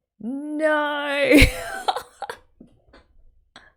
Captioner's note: laughs